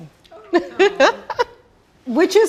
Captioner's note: laughing